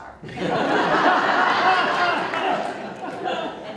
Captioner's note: audience Laughter